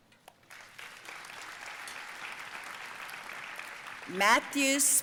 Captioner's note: audience applauding